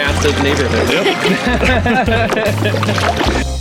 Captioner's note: laughing